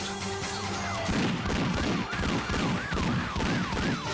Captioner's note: gun firing